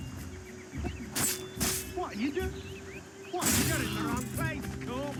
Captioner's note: sword clinking